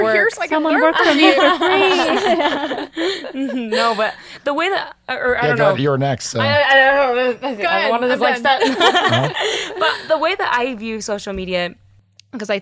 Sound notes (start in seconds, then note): 0.9 laughing; 9.3 laughing